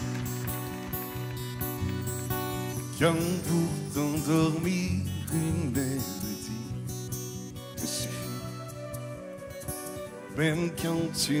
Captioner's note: applause